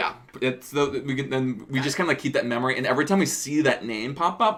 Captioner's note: none